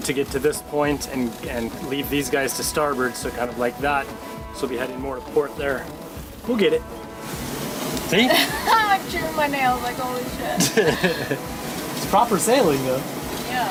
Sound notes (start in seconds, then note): 8.2 chuckling; 10.5 both chuckling